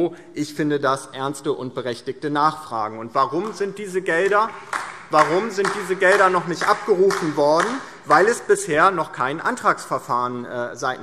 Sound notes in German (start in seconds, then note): 4.0 Beifall DIE LINKE